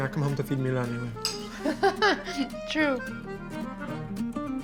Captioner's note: laughs